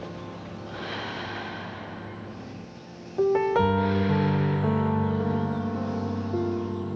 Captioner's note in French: musique inspirante; respire fort